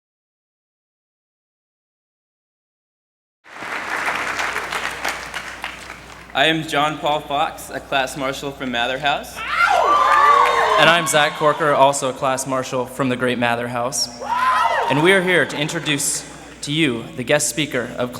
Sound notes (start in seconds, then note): 3.4 applause